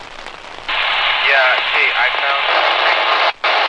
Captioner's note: on Radio; radio static drowning out